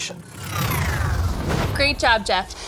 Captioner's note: electronic swoosh